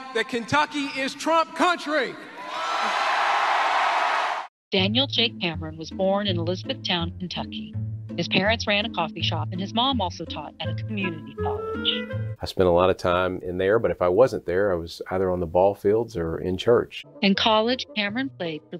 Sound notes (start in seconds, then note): 2.8 audience cheering